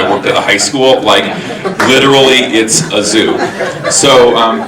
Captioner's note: audience laughing